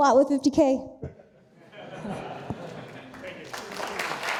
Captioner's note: audience laughing; audience applauding